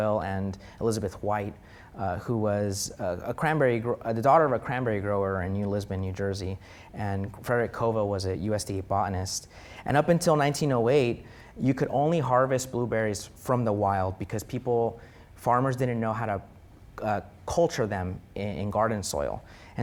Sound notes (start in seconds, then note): none